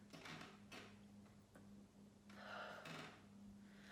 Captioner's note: breathes deeply